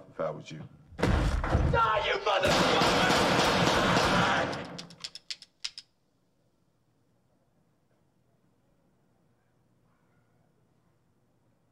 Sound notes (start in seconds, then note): 1.0 door slams; 4.3 hammer clicking